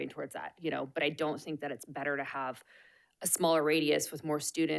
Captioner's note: none